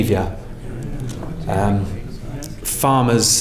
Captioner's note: councillors murmuring